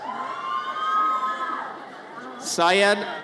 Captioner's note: audience cheers